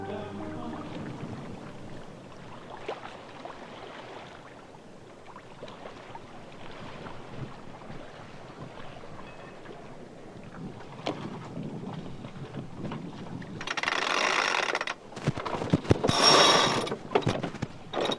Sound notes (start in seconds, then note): 2.6 water gently splashing; 14.1 winch whirring